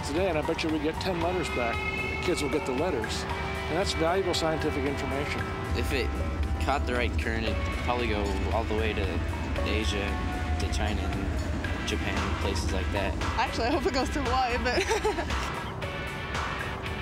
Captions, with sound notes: AND I BET YOU WE GET 10 LETTERS BACK. THE KIDS WILL GET THE LETTERS. AND THAT'S VALUABLE SCIENTIFIC INFORMATION. IF IT CAUGHT THE RIGHT CURRENT, IT COULD PROBABLY GO ALL THE WAY TO ASIA, TO CHINA AND JAPAN AND PLACES LIKE THAT. ACTUALLY I HOPE IT GOES TO HAWAII. [ LAUGHS ]